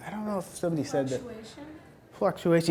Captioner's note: voiceover